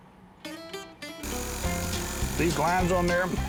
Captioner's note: machine buzzing